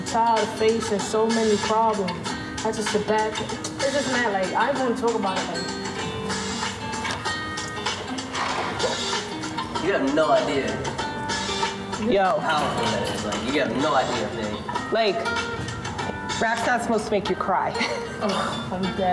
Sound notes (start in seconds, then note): 17.7 laughs